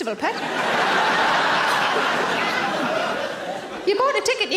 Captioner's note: audience laughing